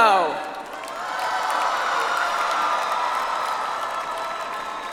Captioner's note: audience applauds